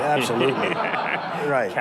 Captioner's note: audience laughs